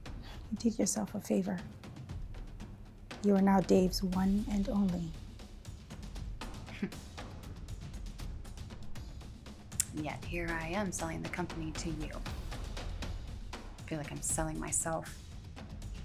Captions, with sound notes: - You did yourself a favor. You are now Dave's one and only. (dramatic music continues) (Lynn sighing) - And yet here I am selling the company to you. I feel like I'm selling myself.